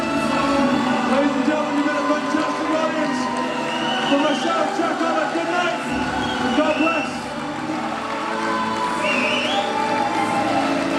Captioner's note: audience applauds